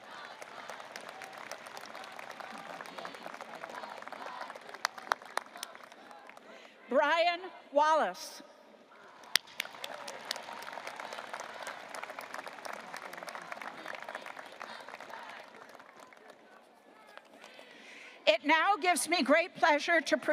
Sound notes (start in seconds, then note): 0.0 audience applauding; 9.2 audience applauding; 13.8 students chanting